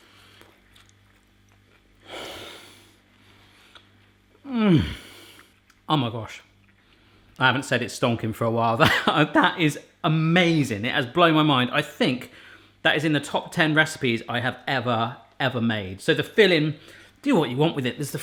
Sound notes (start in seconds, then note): 2.0 exhaling; 4.4 moaning